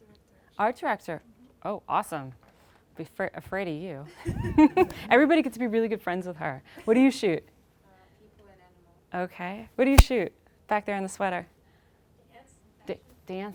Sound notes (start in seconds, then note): 4.3 laughing